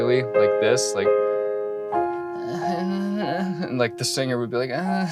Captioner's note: mumbling